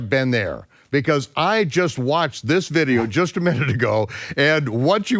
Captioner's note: laughs